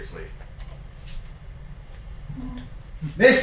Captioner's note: door clicking